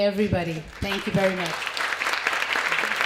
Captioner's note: applause